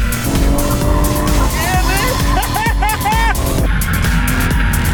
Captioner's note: laughing